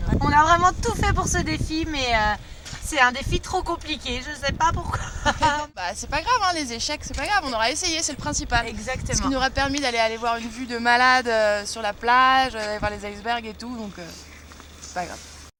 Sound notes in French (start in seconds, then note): 4.9 rires